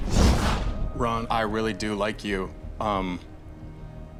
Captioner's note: whoosh